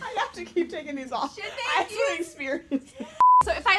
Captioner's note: beep